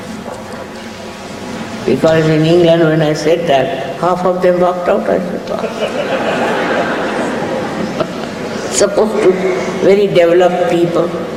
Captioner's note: laughter in the audience, Shri Mataji also laughs